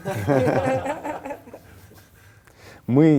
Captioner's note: laugh